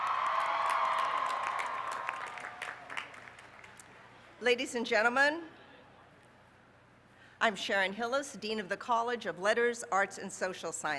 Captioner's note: applause